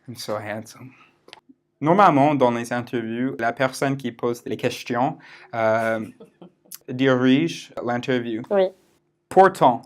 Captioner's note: in thick American accent